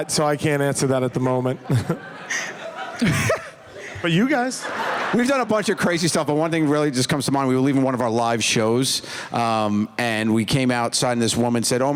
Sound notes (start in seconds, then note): 1.5 laughs